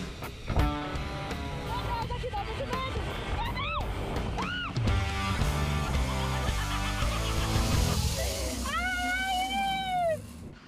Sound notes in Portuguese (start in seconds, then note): 3.4 grita; 5.7 gargalhada; 8.6 grita